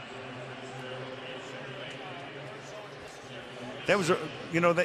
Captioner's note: pa announcement